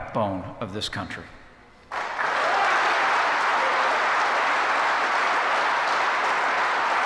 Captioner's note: applause